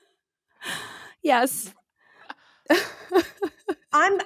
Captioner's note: laughing